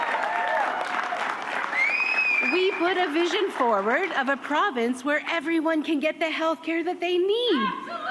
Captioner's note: cheers and applause